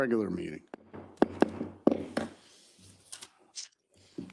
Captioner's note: gavel banging